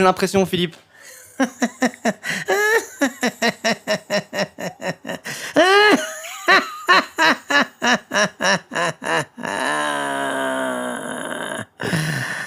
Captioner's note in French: Rire de Freeza